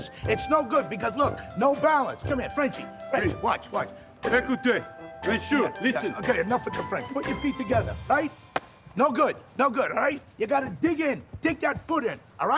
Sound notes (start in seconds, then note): 4.6 speaking in foreign language